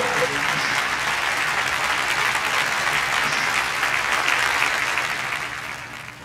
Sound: audience clapping

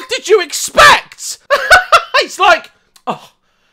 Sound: laughs hysterically

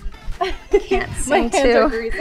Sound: laughs

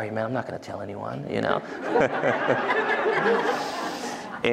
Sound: laughter

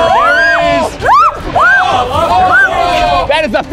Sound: screaming

